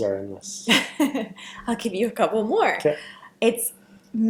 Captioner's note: laughs